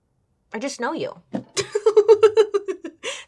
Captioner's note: laughs